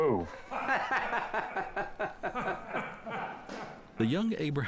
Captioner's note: laughing